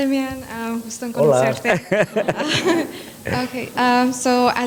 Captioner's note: spanish